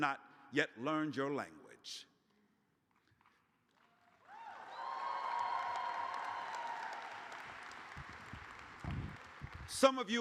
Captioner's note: cheers